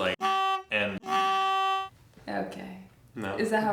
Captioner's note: horn honking